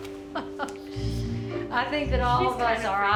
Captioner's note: laughs